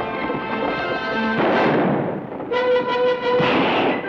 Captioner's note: gun fires